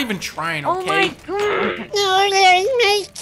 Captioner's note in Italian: gorgoglio infastidito